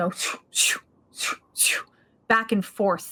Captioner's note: imitating swooshing